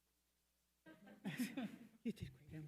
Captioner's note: attendees laughing